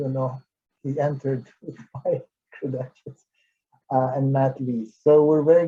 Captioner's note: laughs